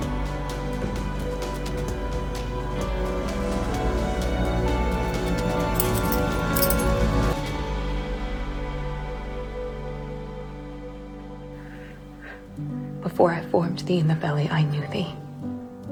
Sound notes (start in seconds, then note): 5.1 Nick unbuckles his belt offscreen; 13.3 voiceover